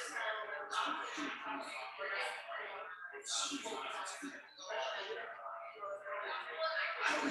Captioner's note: people chattering indistinctly continues